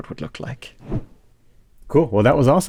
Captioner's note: whoosh